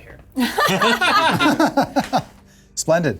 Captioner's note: players laughing